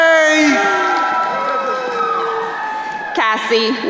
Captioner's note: crowd cheering